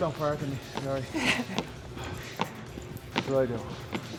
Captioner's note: Sol chuckles